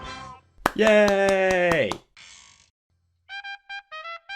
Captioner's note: applauds